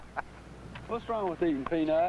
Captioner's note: laughing